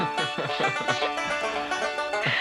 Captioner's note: laughing